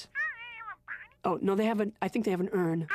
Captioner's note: muffled voice from phone